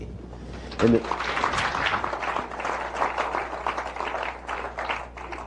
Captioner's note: applause